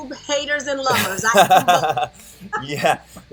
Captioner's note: laughter